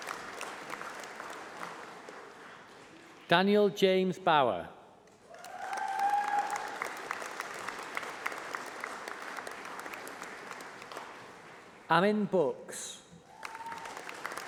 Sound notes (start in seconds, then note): 3.1 applause